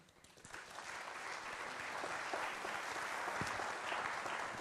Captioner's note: applauding